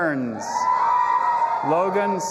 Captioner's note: audience applauding and cheering